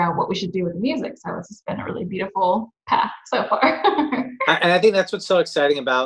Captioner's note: laughs